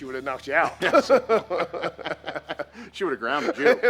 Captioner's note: both laugh